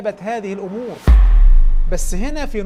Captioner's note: sound effects